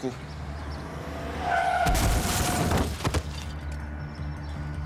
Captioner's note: car sounds; suspenseful music